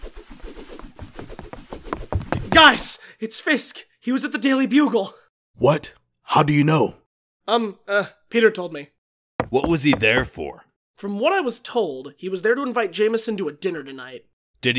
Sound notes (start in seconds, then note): 0.0 twirling sounds; 0.6 footfalls; 9.4 footsteps